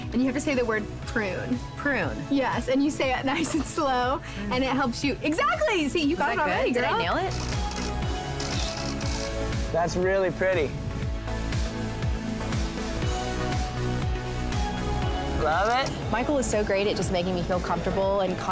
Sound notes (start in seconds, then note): 7.7 bright music; 8.3 camera snaps